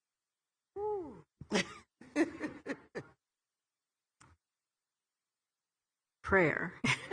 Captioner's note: chuckles